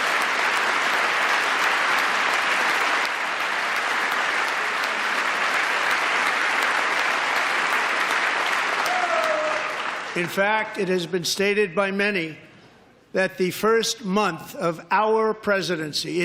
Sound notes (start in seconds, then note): 0.0 applause